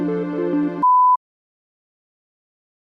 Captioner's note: beeps